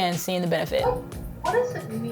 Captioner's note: dog barking